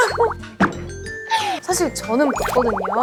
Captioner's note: hahahaha